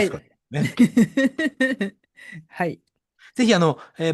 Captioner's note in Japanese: 笑い